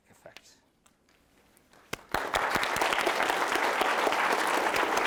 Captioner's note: applause